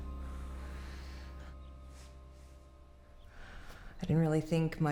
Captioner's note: Anne exhales